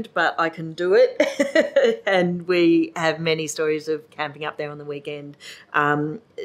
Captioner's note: laughs